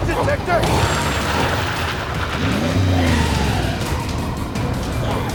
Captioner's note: tires screeching